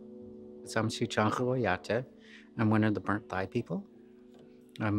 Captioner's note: speaks Lakota